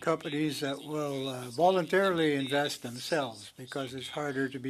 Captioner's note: speaking French